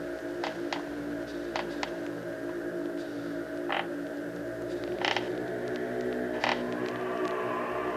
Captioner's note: creaking steps